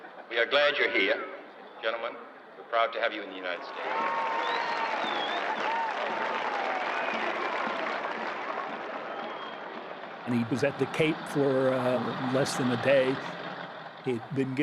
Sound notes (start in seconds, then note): 3.6 cheers and applause